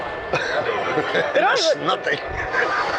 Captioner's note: laughing